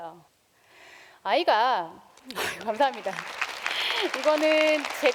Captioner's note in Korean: 박수